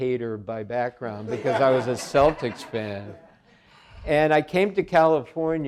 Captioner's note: audience laughing